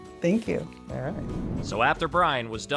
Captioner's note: air whooshing